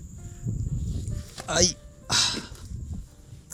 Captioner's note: gasping